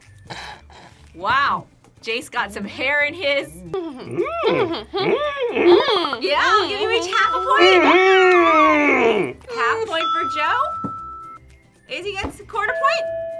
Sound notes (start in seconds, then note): 3.6 both hmm at each other; 8.6 squeals